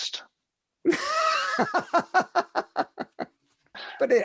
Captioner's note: laughs